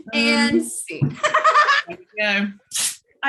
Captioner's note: laughing